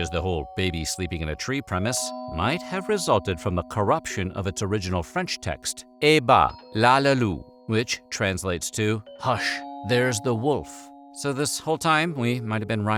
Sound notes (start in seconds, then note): 6.3 speaking french